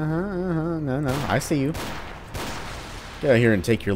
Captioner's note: bang bang